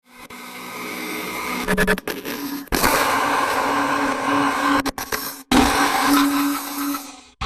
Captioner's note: scratchy SFX